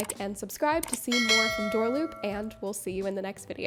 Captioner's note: bells ringing